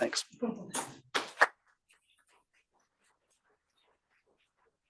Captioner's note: attendees clapping